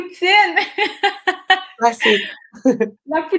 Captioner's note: laughs